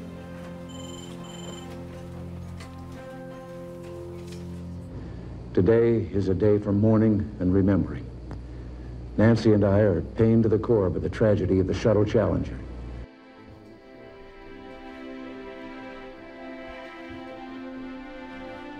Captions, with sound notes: [Television] - Today is a day for mourning and remembering. Nancy and I are pain to the core with the tragedy of the Shuttle Challenger.